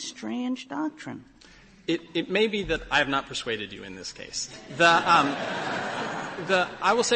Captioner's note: laughter